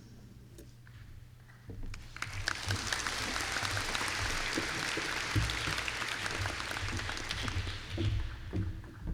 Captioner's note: applause